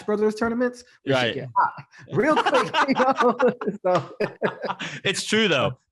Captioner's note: laughs